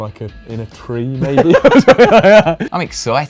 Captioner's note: laughs